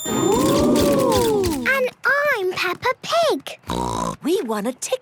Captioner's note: snort